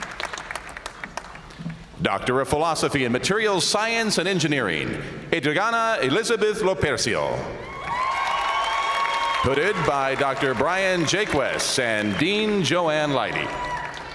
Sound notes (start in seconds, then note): 7.6 audience cheering